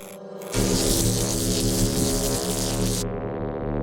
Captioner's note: electricity zapping